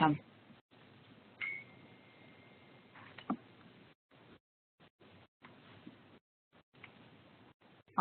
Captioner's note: silence